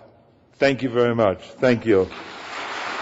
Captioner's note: applause